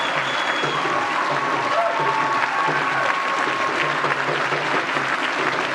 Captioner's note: applause